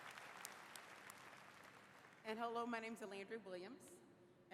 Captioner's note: applause